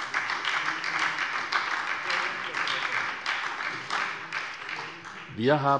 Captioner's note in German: Beifall bei der SPD